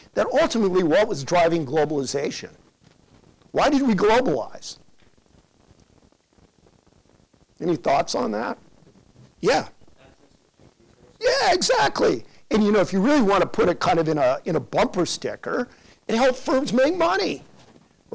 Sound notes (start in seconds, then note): 10.2 student speaks faintly